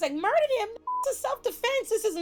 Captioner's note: beep